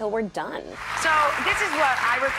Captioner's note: audience applauding